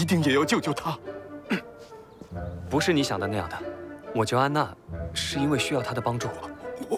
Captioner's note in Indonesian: batuk